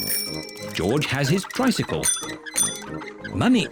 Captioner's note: rings bell